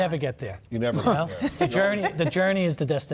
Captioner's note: laughing